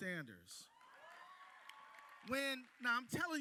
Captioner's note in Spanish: aplausos